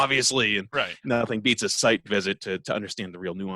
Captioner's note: laughs